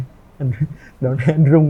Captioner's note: laughs